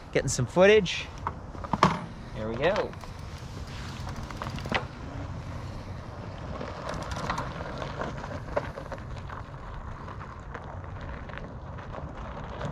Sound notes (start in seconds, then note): 7.2 bicycle clinking